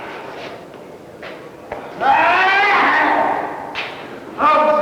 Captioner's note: indiscriminate chatter; screaming out in pain